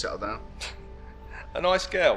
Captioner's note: Jez chuckling